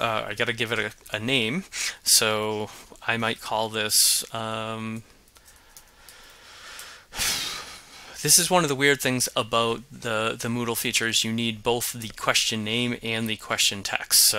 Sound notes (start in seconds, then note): 7.1 sighs